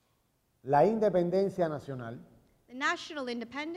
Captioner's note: speaking in Spanish